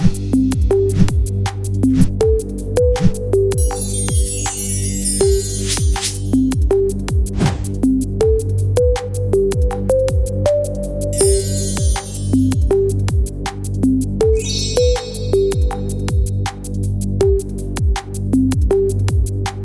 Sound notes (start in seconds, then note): 0.1 words swoosh; 3.6 chimes ring; 7.4 boxes swoosh; 8.0 electronic music; 11.1 chimes ring; 13.2 electronic music; 14.4 chimes ring; 16.6 electronic music